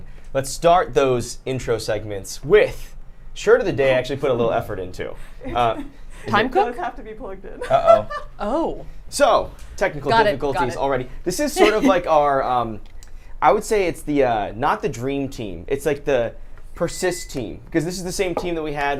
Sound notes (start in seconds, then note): 7.6 laughs